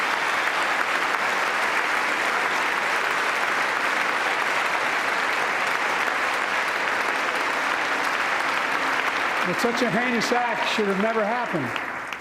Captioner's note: applause